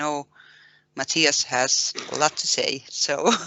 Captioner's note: laughter